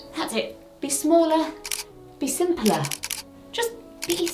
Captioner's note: camera clicking